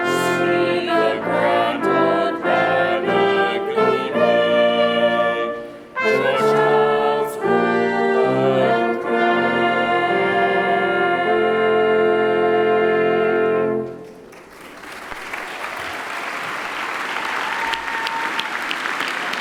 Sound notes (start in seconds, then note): 14.1 applauding